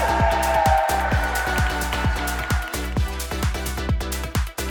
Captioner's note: audience cheers